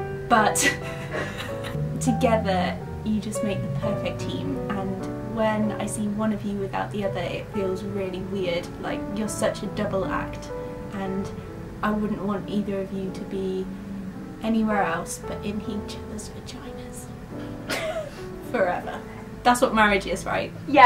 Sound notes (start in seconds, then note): 0.6 laughs; 17.6 laughs